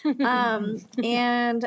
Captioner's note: laughs